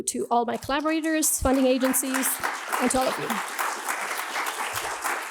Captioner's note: applause